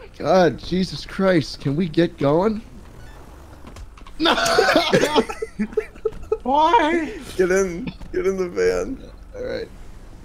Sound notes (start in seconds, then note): 3.5 punch sound